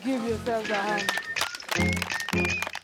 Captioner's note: students clapping; bouncy music